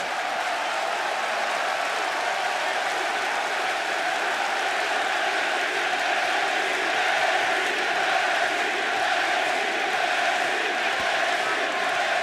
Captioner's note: crowd cheering